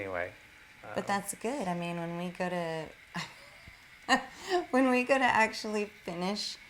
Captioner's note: laughter